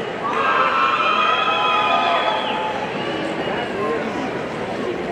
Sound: audience cheering

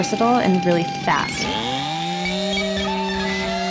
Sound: chainsaw sounds

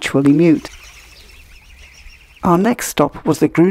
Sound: sound of chicks tweeting

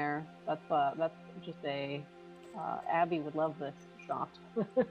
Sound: chuckles

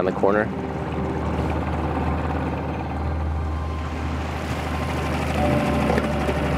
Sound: boat spluttering; somber music

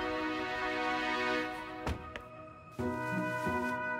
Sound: heartfelt music; car door closing

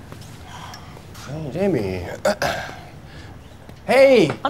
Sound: footsteps shuffle; clears throat

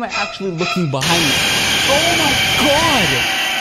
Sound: loud static

